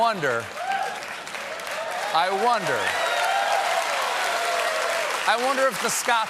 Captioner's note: applause